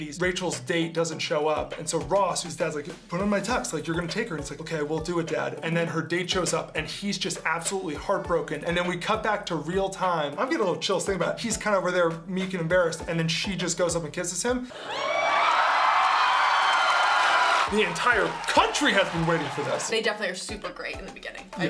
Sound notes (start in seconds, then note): 14.7 audience cheering